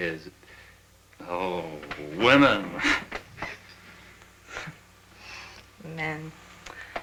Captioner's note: scoffs